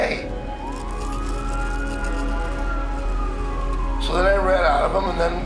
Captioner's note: siren wailing